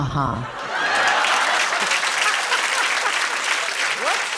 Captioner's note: laughter and applause